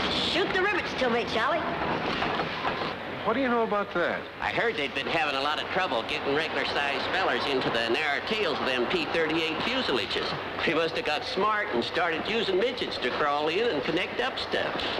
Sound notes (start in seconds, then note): none